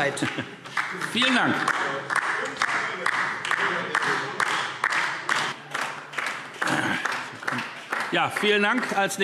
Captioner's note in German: Beifall DIE LINKE